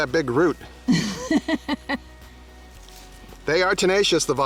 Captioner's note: laughter